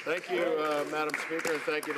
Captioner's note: some applause